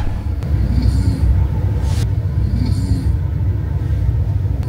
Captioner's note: snoring😴